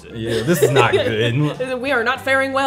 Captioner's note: laughing